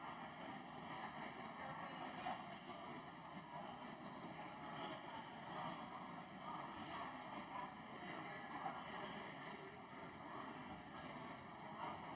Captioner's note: crowd Noise